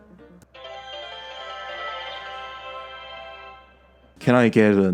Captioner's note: overexaggerated networking sounds